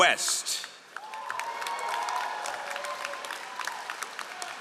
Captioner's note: all applauding